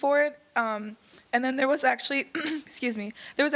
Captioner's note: clearing throat